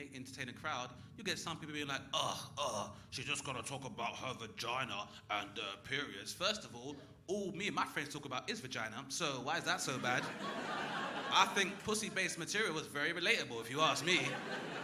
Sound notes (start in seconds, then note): 2.4 groaning